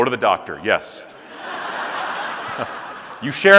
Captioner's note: audience laughing